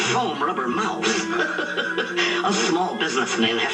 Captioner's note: chuckling